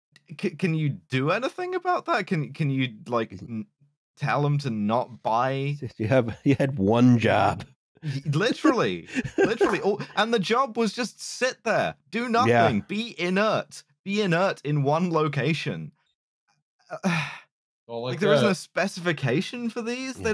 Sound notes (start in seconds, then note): 8.0 laughing; 17.0 sighs exasperatedly